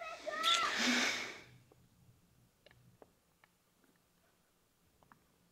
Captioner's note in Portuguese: risos